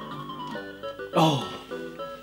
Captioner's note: sigh of relief